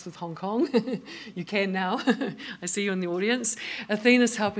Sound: laughs

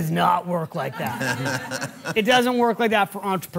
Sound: and Audience laughing

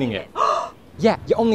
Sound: gasps

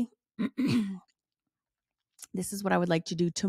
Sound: clears throat

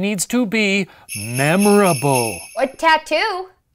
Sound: sleigh bells

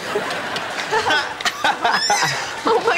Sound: laughing

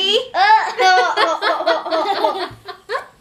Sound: laughs

